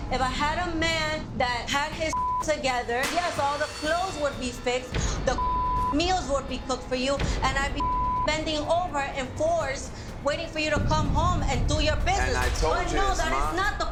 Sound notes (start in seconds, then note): 2.1 beep; 7.7 beep